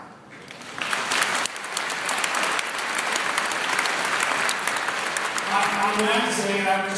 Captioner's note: applause